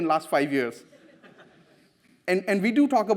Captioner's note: audience laughs